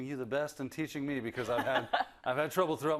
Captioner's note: laugh